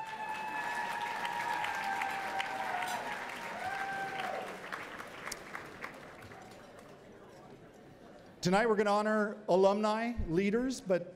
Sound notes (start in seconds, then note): 0.0 cheering and Applause